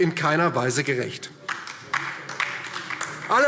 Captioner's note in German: Beifall DIE LINKE